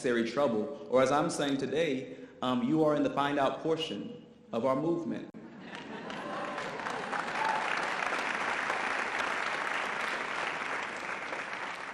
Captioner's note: audience applause